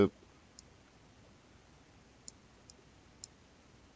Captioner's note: mouse clicking